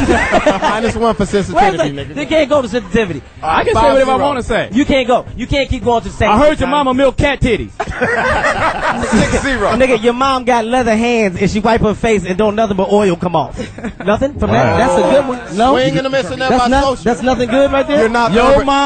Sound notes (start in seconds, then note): 7.8 all laugh